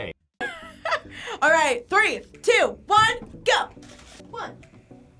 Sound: laughs

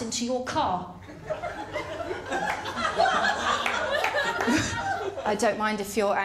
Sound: laughter

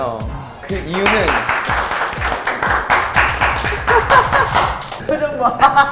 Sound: consoling applause

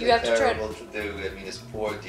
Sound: voiceover

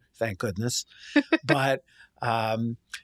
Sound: chuckling

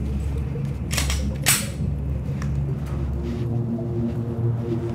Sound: gun cocks

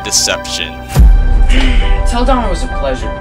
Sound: sighs

